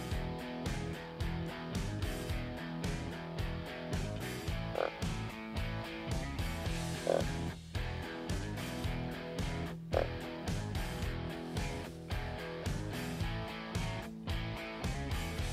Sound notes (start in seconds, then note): 4.8 buck grunting